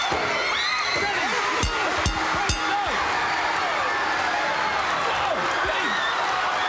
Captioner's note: mat banging; audience cheering; bell rings